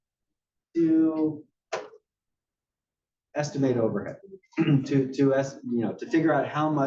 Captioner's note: cough